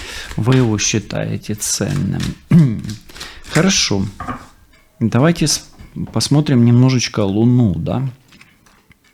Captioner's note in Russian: откашливается